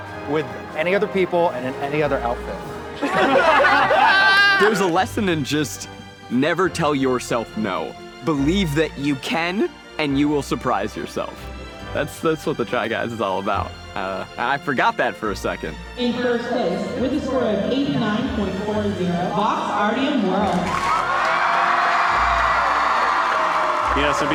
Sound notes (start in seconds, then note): 3.0 everyone laughing; 20.4 audience cheering